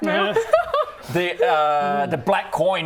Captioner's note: manipulated laughter